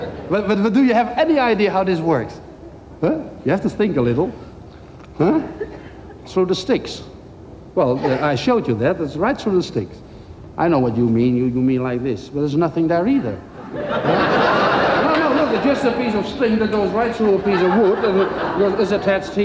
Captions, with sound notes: DO YOU HAVE ANY IDEA HOW THIS WORKS? WELL, YOU HAVE TO THINK A LITTLE, HUH? SO THE STICKS WELL, I SHOWED YOU THAT, IT GOES RIGHT THROUGH THE STICKS I KNOW WHAT YOU MEAN YOU MEAN LIKE THIS, BUT THERE'S NOTHING THERE EITHER (CROWD LAUGHS) THERE IS JUST A PIECE OF STRING THAT GOES RIGHT THROUGH A PIECE OF WOOD AND IT'S ATTACHED HERE